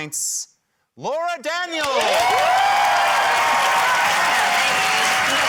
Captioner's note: cheering, applause, whistling